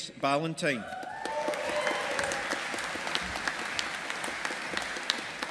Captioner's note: audience applauding